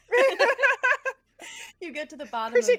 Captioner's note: everyone laughs